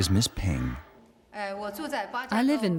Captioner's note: speaking in foreign language